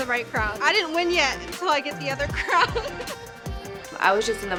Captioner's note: laughs